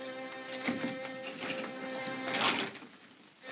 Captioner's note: lock rattles; ominous whimsical music; chain clatters; ominous whimsical music